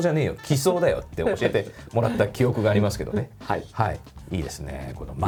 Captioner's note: laughter